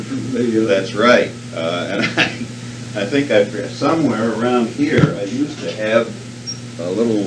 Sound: laughs

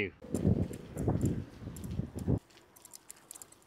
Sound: wind blowing

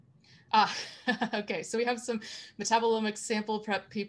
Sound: chuckles

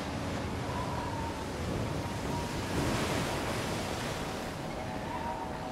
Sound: seagull squawks; waves crashing; wind whistles

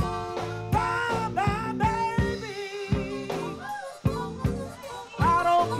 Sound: audience member shouts

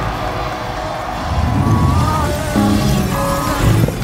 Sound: cheering

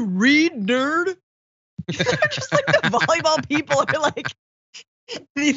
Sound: laugh

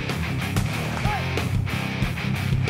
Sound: yells

